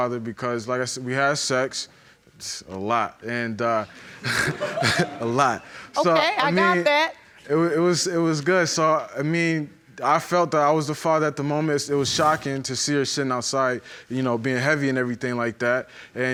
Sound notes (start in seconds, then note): 4.2 audience giggling; 4.2 chuckling